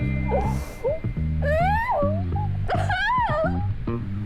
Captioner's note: Sound of Queen Gabee sobbing